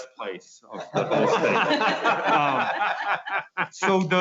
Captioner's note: laughing